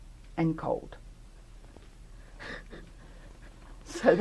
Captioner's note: laughter